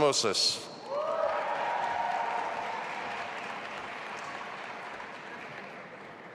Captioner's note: audience applauding and cheering